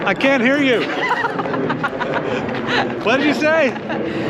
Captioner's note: airplane noise; Nicole laughs